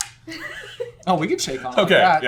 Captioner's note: laughter